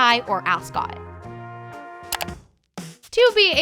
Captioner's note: clicking